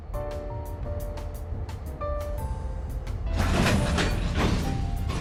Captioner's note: subway roaring and booming